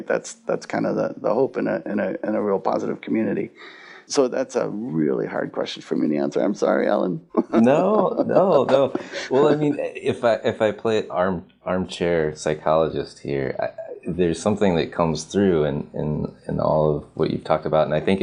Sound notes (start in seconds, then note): 7.3 laughs